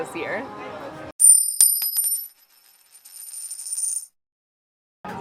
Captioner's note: coin clinking